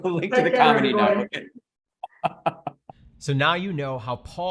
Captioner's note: chuckles